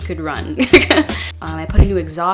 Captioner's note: laugh